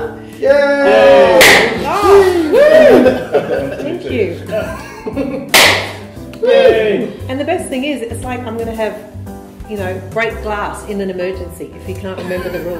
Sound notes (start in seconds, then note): 1.2 off-screen: Yayyy! *Party Popper Pops; 1.4 party Popper Pops